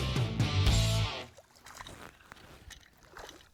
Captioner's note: water splashes